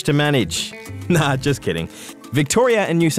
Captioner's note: chuckles